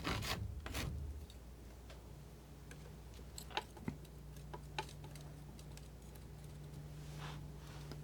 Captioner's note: scratching